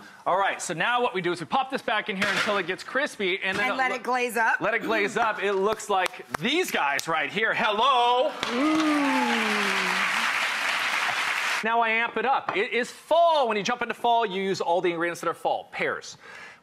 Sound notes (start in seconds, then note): 8.2 audience applauds